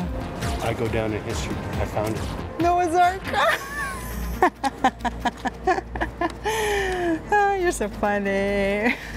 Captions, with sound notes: -I go down in history. I found it. -Noah's Ark. [laughs] You're so funny.